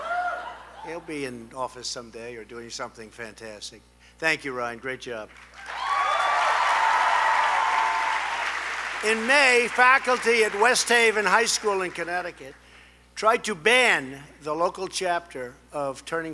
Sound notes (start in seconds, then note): 5.3 applause